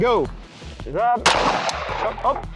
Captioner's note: gun shoots